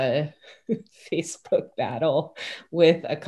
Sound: chuckles

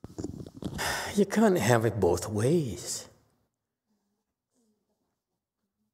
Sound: sigh

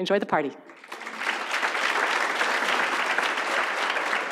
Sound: audience applauds

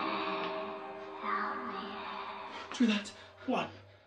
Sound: snarling and moaning

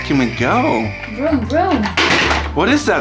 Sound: vroom Vroom

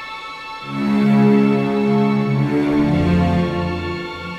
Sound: deep horn blares

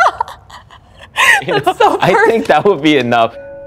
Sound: laughs

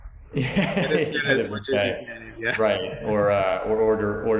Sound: laughing

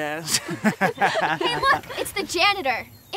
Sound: crowd laughing

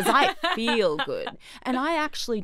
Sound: laughing

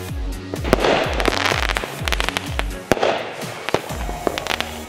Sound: fireworks bursting

